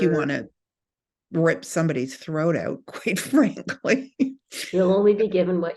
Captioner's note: laughs